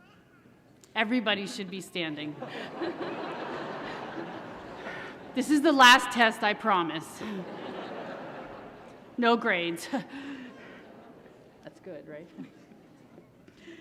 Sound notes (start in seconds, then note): 2.3 laughter; 7.2 laughter